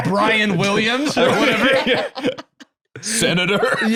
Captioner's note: laugh